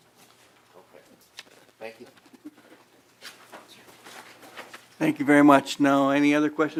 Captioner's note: laughing